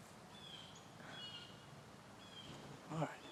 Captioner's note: birds chirping